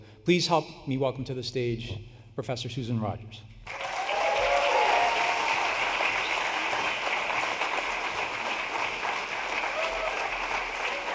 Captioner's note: applause